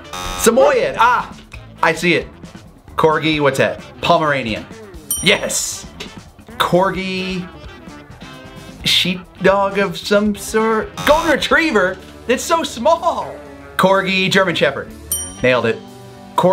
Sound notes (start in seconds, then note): 0.0 alarm buzzes; 5.0 bell dings; 10.9 alarm buzzes; 15.1 bell dings